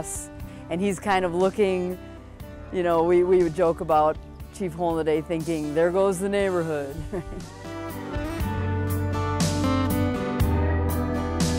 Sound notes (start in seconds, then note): 7.0 chuckles; 7.7 lighthearted music